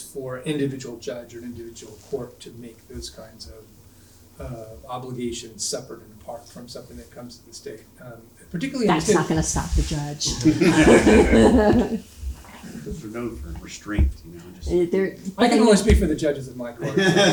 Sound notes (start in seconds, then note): 10.2 audience laughing